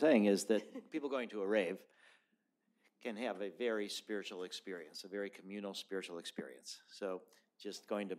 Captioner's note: laughter